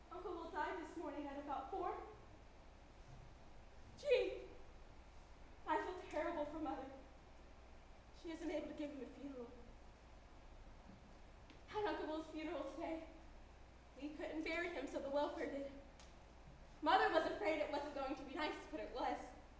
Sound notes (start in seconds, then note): none